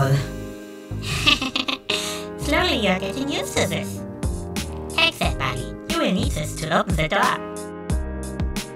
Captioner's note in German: Kicher